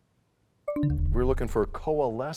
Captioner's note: bell chimes, time expires